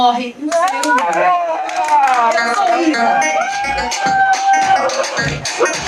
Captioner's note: audience applauds